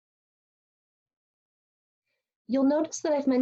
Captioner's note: pause